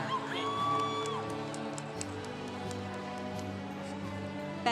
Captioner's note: congregation cheering